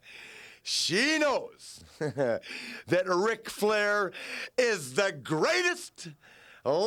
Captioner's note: laughs